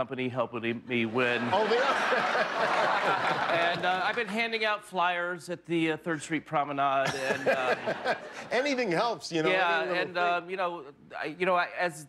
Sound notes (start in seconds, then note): 5.4 laughter